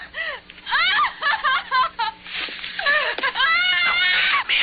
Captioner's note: screaming